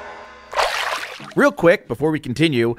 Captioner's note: water splash